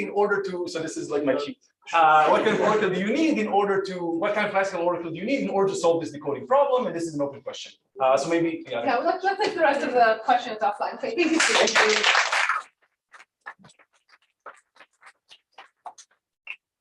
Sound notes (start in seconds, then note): 11.2 applause